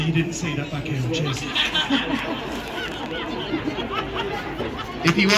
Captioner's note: laughter